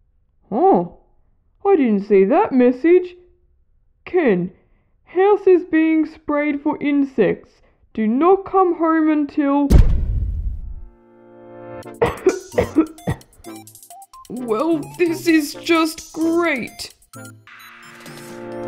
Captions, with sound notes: Oh, I didn’t see that message Ken, house is being sprayed for insects Do not come home until... (Bang!) (Cough! Cough! Cough!) Well this is just great...!